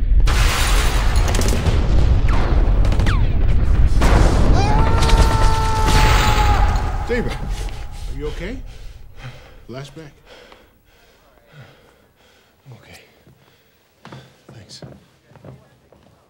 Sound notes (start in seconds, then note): 0.0 deep thunder rumbles; 0.2 gunshots whizzing; 1.2 thunder claps; 4.6 Stephen yells; 7.1 Stephen breathing heavily